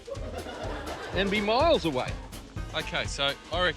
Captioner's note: laughter